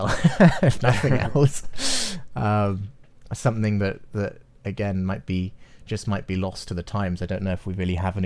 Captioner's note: both laugh